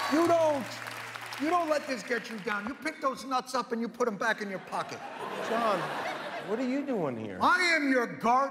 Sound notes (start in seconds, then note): 0.0 cheers and applause